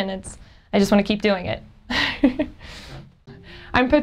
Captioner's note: chuckles